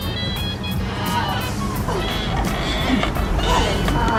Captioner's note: door creaking